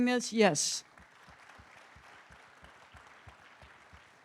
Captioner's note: audience clapping